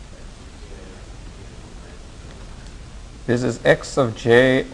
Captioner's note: students talking